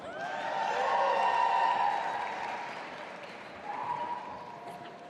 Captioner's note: audience applauding and cheering